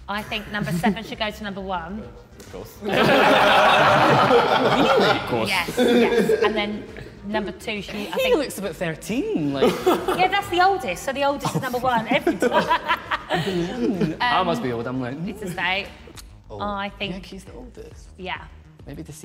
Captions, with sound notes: I think number seven should go to number one. - Of course. (all laughing) - Yes, yes, and then number two should-- - He looks about 13, like-- - Yeah, that's the oldest so the oldest is number one-- (both laughing) - I must be older then. - I think-- - I think he's the oldest. - Yeah.